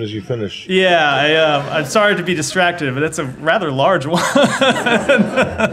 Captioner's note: laughter